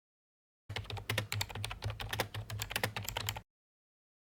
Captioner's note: typing